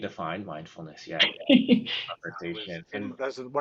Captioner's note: chuckling